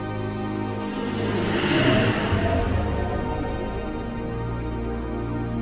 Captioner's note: spacecraft whooshes